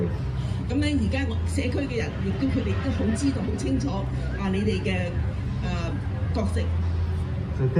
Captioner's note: speaking foreign language